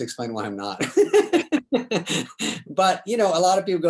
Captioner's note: David laughs